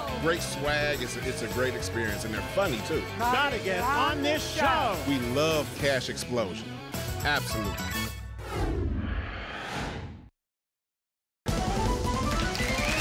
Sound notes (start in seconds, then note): 8.4 whoosh; 11.6 applause and cheering